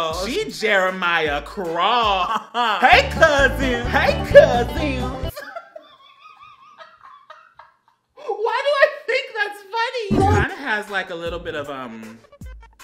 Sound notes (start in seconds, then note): 5.3 laughs